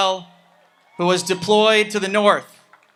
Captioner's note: audience applauds and cheers